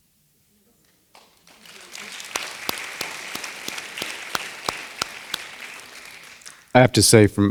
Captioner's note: applause